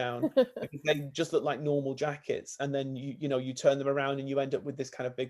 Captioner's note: laughs